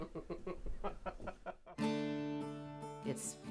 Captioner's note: all laughing